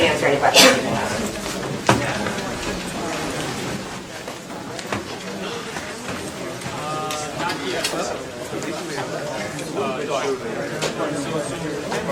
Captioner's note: background chatter